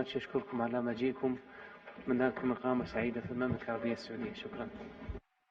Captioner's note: in Arabic